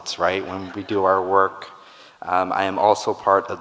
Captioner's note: audience laughing